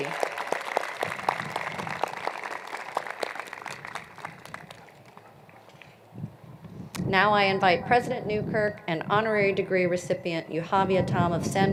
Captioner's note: applause